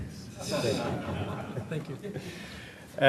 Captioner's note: laughter